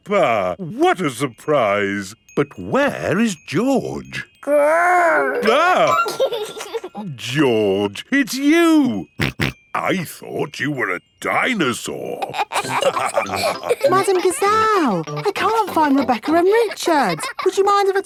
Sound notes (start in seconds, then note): 5.0 giggles; 6.1 exclaims; 9.2 snorting; 12.2 all laughing